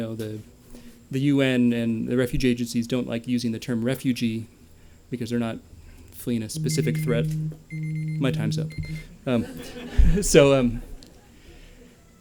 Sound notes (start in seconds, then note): 6.4 beeping; 9.4 laughter